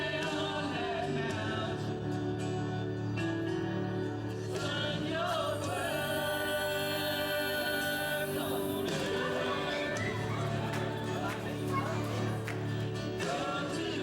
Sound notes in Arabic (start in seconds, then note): 5.3 أطفال يلعبون